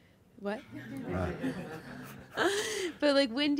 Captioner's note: laughing